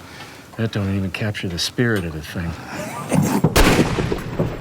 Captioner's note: gunshots